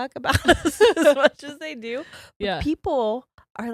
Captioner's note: both giggles